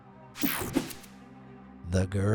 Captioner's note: transition whooshes